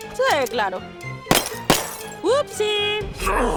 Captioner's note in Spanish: Disparos, rompen vidrio